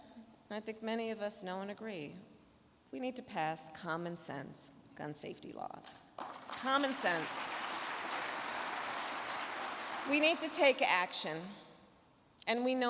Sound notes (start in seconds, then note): 6.2 crowd clapping